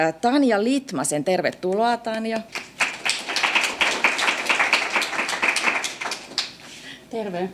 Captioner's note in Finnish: aplodeja